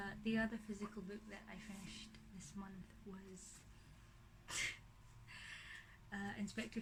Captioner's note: laughs